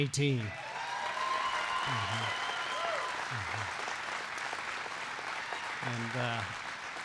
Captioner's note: applause